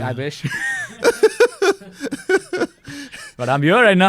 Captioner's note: laughs